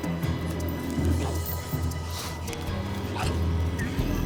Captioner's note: cougar growls